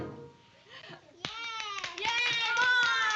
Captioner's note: clapping and cheering